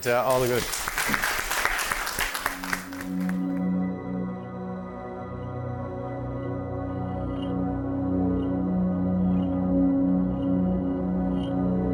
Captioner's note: applause